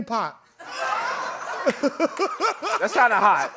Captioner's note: laughter